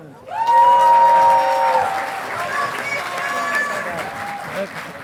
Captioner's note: audience applauding